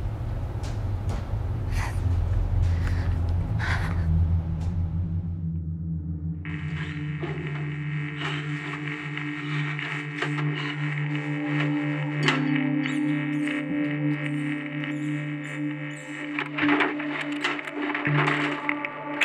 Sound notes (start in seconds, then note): 2.7 light dramatic music; 6.5 static buzzing; 12.8 rat squeaking